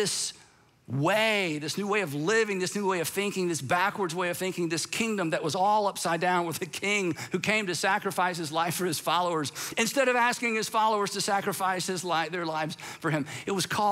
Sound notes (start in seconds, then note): none